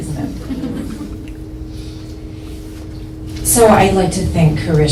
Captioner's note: audience laughs lightly